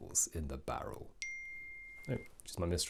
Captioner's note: ping